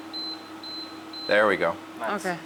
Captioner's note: buttons beeping